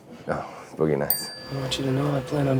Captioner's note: bell rings